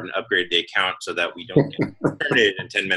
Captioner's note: laugh